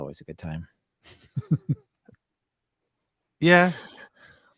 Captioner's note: laughs